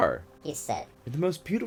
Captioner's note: high-pitched voice effect